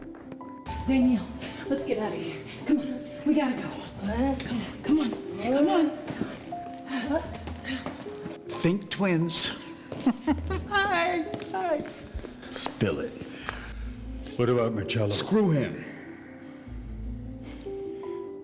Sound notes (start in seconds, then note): 7.4 groaning; 9.8 chuckles